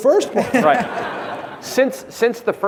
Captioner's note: audience laughing